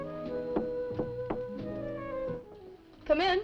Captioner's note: knuckles rapping